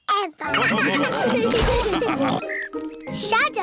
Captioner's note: all laugh